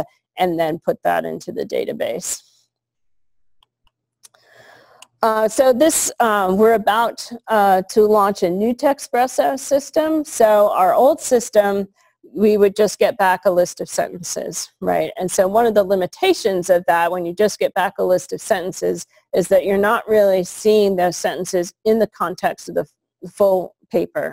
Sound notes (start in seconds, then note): 2.8 pause